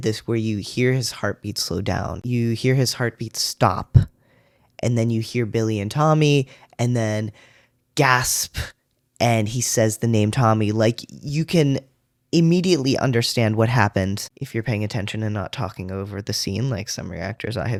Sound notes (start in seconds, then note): 8.0 gasp